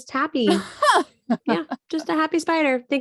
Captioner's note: laughing